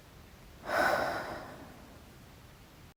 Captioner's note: breath